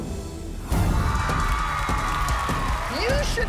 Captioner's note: applause